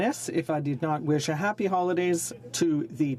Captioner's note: speaking French